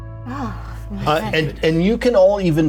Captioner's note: sighs